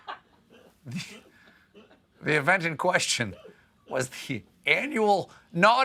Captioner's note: laughter